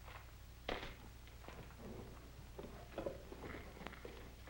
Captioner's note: rock clacks